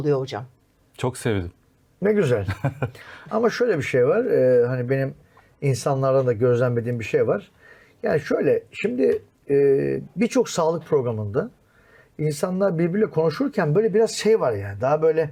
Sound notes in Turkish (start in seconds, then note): 2.4 kahkaha